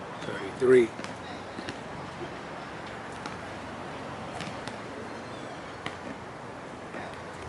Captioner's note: basket ball tapping; people chattering